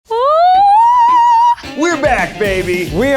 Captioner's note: screams